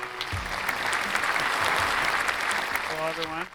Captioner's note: audience applauds